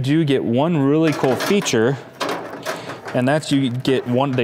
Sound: metals clanking

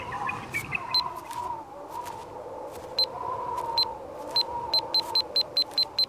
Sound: footsteps approaching

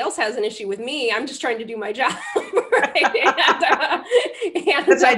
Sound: laughter

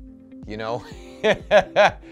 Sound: laughs

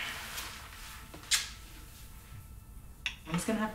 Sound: smooch

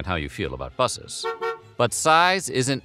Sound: honk

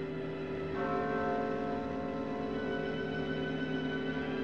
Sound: bell Tolling

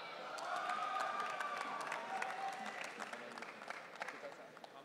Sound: audience cheering

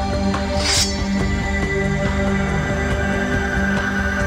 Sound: sword unsheathes

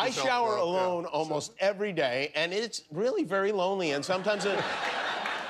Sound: laughter

